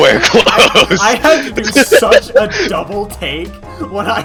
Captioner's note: laughing